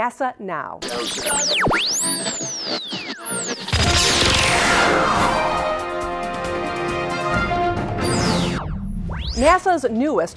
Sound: sound Effects

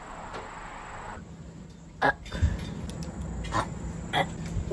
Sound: fake burping ensues

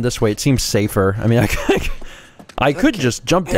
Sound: laughs

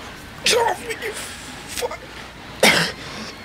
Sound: coughs

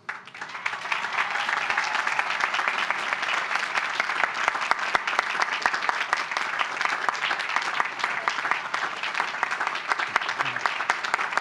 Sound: applause

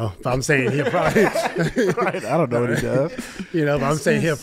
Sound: laughs

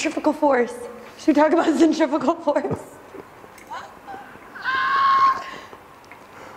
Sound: giggles

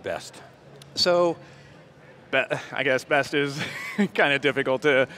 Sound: laughs

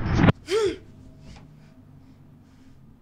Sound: gasps

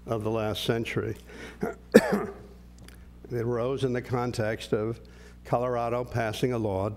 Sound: cough

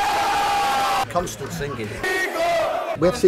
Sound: shouts

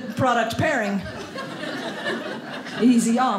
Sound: audience laughing

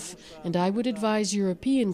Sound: speaking Foreign Language

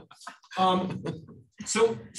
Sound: laughter

